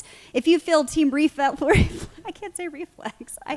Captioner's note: laughing